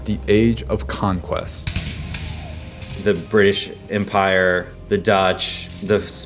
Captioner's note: soundbite of cannons firing